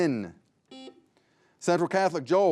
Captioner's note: buzzer buzzing